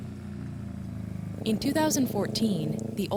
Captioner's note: motorcycle going past